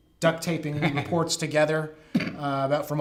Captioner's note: laughing